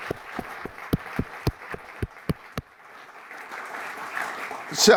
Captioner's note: audience applaud